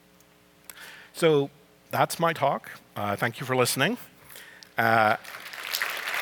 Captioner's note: applause